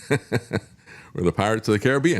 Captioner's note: laughs